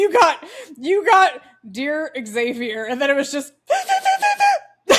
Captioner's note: sobbing noises